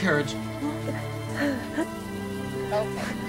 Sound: murmuring sounds

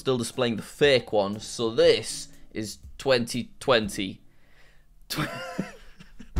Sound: laughs

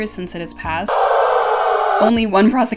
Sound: hell noise

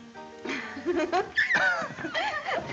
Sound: laughing

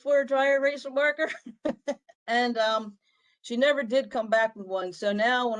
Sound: laughter

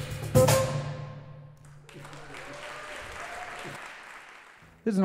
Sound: applause

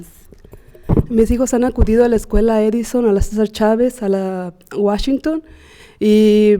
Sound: speaking Spanish

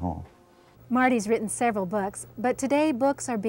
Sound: voiceover

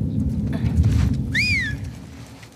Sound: whistle!!

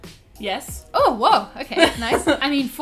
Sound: laughs

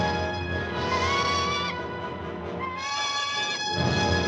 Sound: bird shrieking

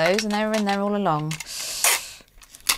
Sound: tape tearing; pencil scratching; scissors snipping

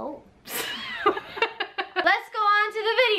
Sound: both laughing

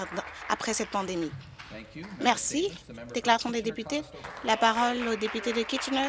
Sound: some Applause

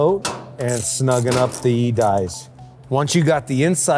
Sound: tool clicking

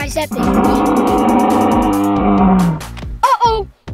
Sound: loud roar

